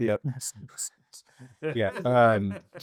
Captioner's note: laughing